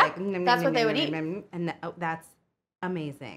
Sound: mimics eating

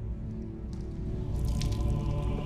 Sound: wet drippy noises

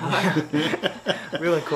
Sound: family laughing

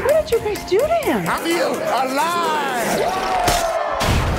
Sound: cheering

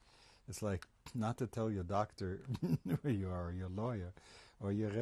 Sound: laughs

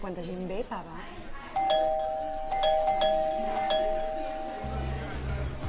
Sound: persistent doorbell; murmuring

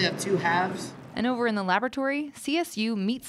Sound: voiceover

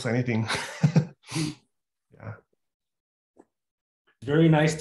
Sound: chuckles

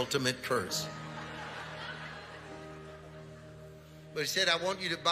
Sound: congregation laughing

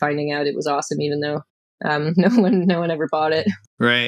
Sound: laughter

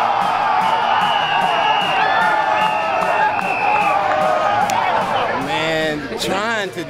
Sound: whistle

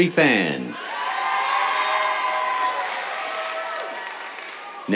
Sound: cheers, applause

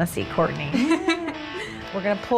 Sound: laughing

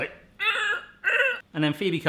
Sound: groaning

